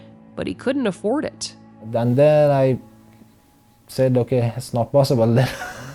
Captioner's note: laughs